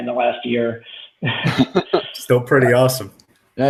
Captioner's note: laughter